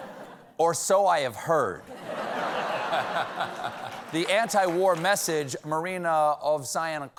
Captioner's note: laughter